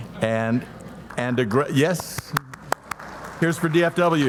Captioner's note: audience applauding